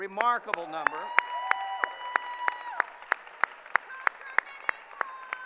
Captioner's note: cheering